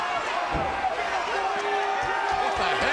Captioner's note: crowd yelling